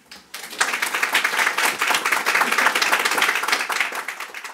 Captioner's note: audience applauding